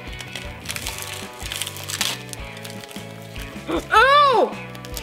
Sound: seaweed crunches

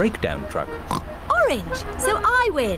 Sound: oinks

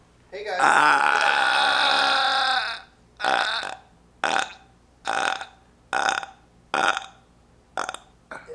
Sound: burp sound category

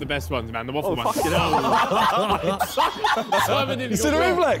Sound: all laughing

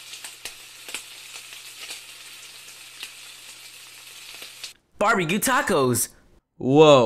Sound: fire cooking

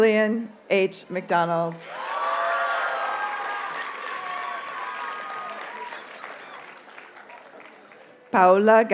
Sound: audience cheers and applauds

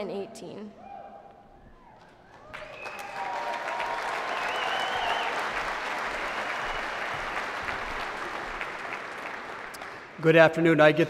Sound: applause

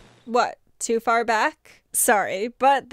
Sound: record skips

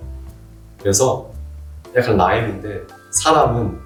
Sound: in Korean

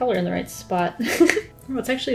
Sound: laughs

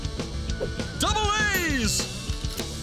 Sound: narrator Voice

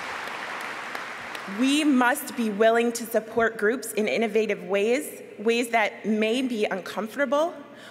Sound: applause

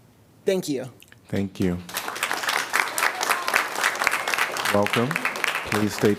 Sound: applause

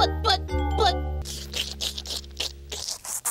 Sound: audio loops, lower-pitched; intensive slurping; audio speeds up

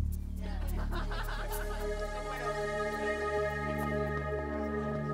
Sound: woman laughing

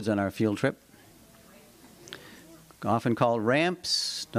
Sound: audience murmuring

